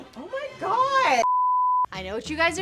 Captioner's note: beeping